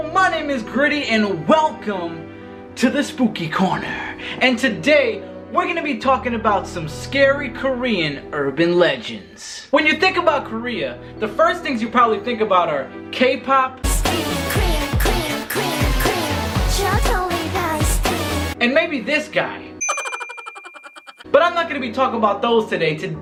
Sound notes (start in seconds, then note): 19.8 bell chimes; 19.9 mischievous laughing